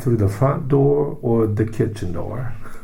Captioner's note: laughs